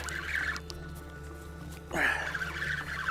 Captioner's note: grunting; line reeling